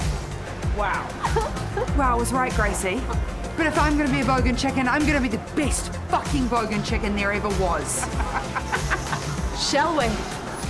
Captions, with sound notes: Wow 'Wow' is right, Gracie But if I'm going to be a bogan chicken I'm gonna be the best fucking bogan chicken there ever was *cackles* Shall we?